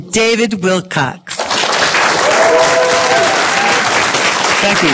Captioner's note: tumultuous applause